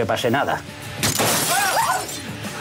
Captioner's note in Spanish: Disparo